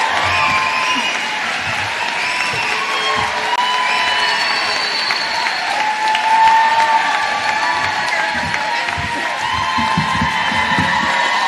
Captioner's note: cheers and applause